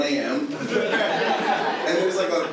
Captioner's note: audience laughs